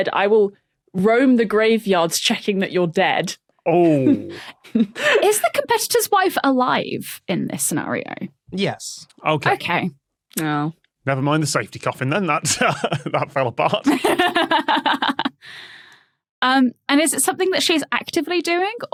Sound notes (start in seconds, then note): 3.9 snicker; 13.9 laughs